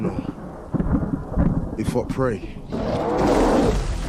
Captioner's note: thunder